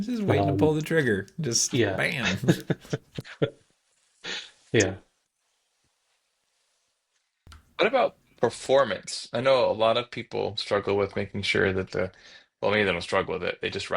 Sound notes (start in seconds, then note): 2.2 laughing